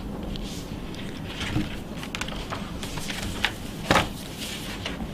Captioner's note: pages rustling